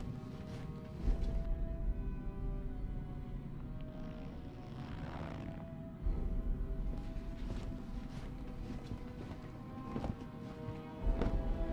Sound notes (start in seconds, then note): 0.1 intense music; 4.7 zipper zipping